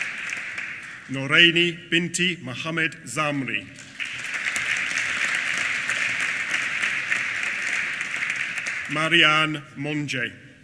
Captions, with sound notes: Noraini Binti Mohammed Zamri. (APPLAUSE) Marianne Monge.